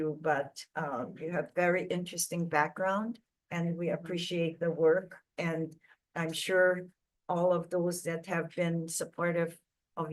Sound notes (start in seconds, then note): none